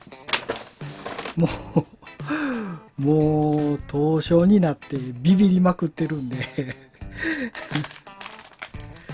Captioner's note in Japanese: 笑い